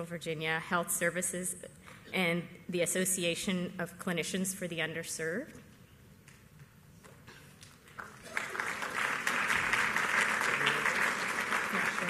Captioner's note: applause